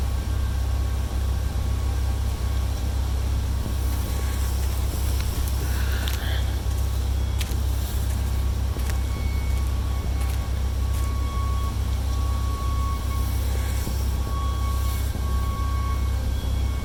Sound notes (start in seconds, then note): 1.8 suspenseful music continues; 2.2 wind blows; 5.9 stalker breathes heavily